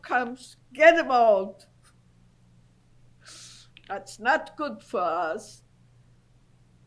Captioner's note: pauses for 3 seconds